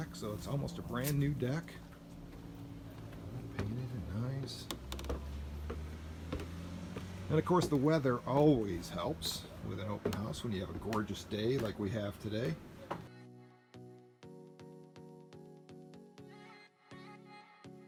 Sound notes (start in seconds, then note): 4.4 footsteps thudding; 13.7 upbeat music